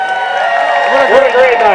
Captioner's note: cheering